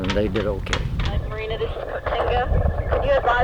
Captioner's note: woman On Radio